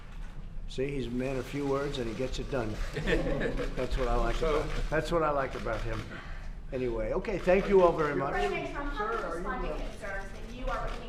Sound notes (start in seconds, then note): 2.8 laughter; 5.5 laughs